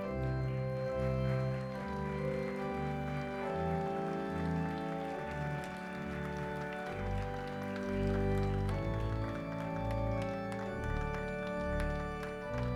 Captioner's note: applause